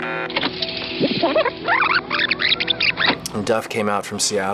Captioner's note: tape screeching